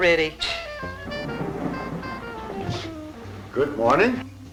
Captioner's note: scoffs